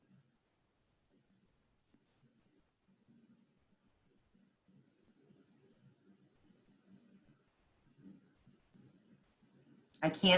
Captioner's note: silence